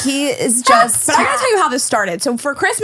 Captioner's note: laughing